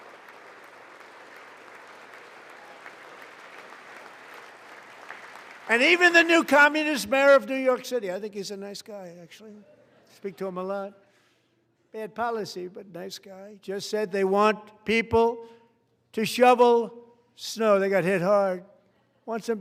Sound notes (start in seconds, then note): 0.0 applause